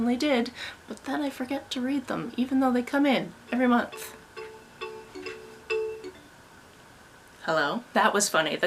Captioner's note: phone ringing